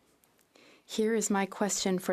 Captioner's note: speaking French